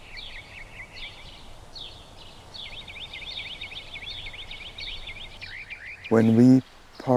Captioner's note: birds chirping